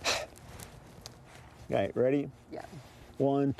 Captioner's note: sighs